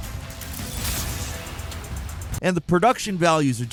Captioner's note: explosion blasts